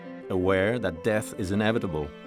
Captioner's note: none